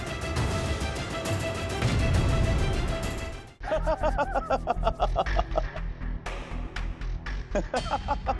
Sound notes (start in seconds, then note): 3.6 laughing